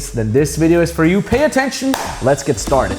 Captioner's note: hands clapping